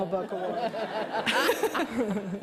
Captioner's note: laughter